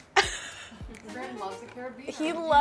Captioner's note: laughs